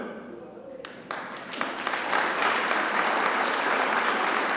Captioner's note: people clapping